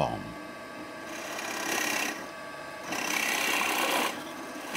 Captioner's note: loud drilling noise